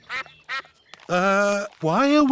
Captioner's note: sucks quacking